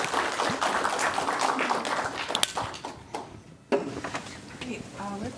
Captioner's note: applause